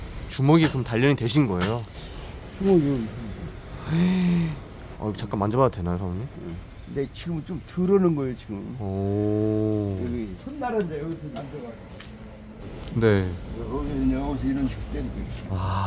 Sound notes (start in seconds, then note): 2.8 gasps